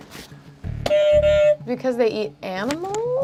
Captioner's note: buzzer honks